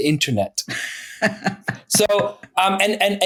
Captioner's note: laughing